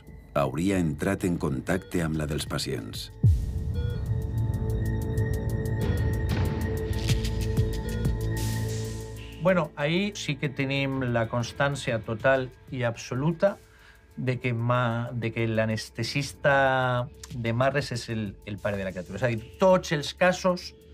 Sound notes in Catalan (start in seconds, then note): 3.5 Bip de les constants vitals; 6.0 Música de suspens